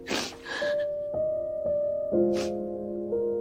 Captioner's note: snorts and crying